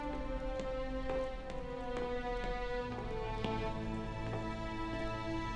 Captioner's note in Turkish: Ayak sesi